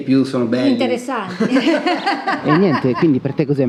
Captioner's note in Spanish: risas